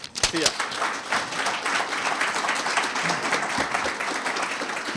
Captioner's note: audience applauding